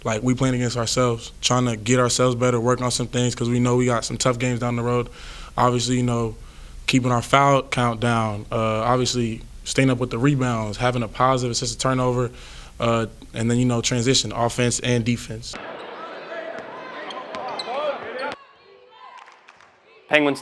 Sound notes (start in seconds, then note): 15.6 men yelling; 18.9 crowd